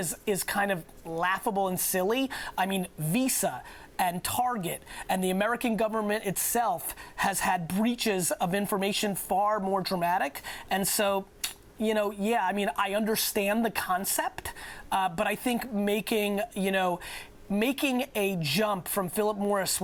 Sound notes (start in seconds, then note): 11.4 clicks tongue